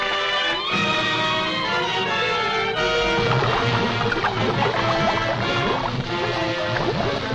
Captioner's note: dramatic music; lava burbling